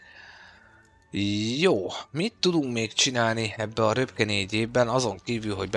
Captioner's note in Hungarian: sóhajtás